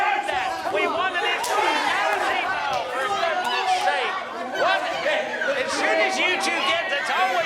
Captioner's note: people making lots of noise